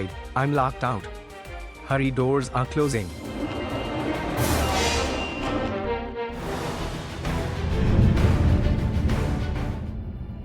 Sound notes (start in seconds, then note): 3.0 hanger doors closing